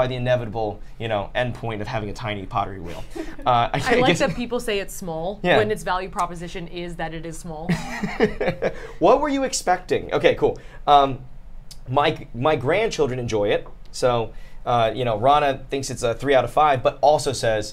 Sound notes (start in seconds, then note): 7.7 laughs